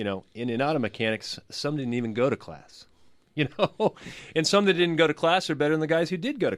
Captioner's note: laughs